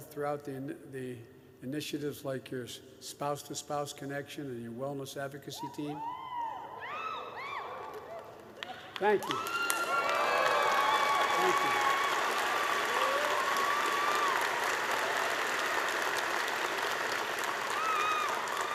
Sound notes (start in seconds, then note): 5.9 cheers; 8.2 applause